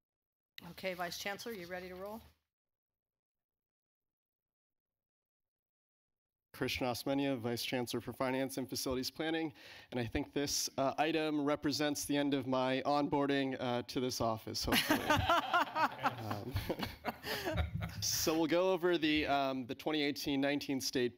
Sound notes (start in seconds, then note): 14.7 laughter